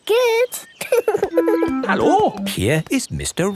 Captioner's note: laughing